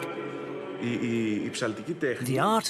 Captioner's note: speaking in foreign language